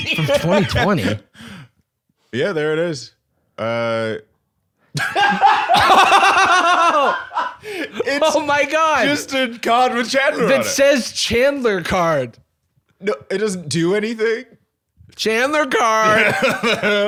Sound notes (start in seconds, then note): 4.9 both laughing